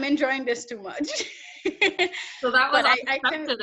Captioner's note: laughs